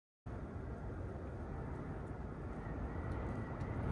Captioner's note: wind roaring